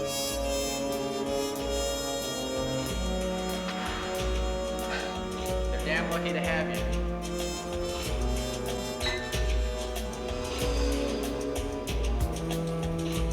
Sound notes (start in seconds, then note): 4.4 scoffs; 9.0 glasses clink